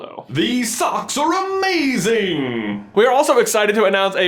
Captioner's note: voiceover